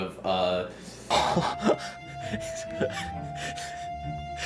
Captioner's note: fearful chuckling